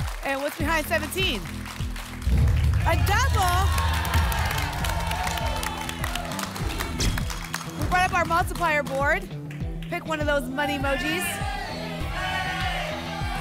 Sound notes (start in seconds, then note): 2.2 rumbling sounds; 4.7 applause and cheering